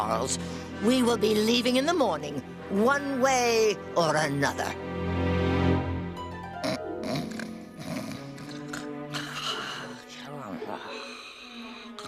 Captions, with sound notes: WE WILL BE LEAVING IN THE MORNING... ONE WAY OR ANOTHER. [SNORING] [MUTTERING]